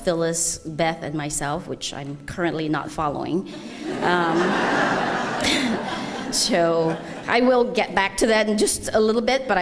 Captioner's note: laughter